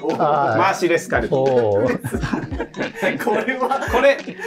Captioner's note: laughing